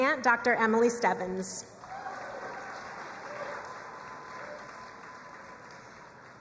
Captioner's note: crowd cheering and applauding